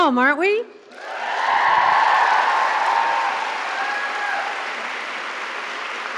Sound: cheers and applause

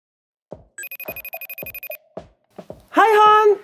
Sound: FaceTime rings

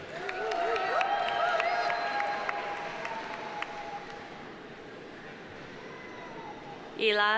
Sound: audience applauding; audience cheering

